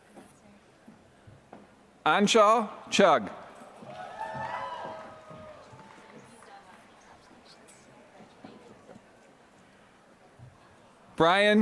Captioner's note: applause